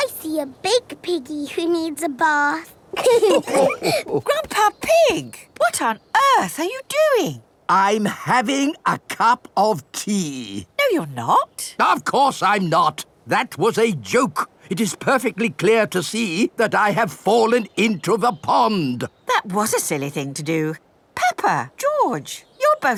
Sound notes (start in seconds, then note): 2.9 all laughing